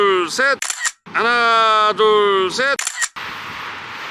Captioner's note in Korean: 찰칵